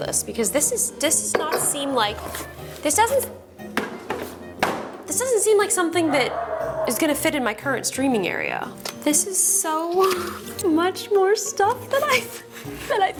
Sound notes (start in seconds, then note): 3.9 box clatters; 6.0 Matty barks